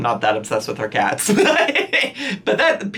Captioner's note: laughing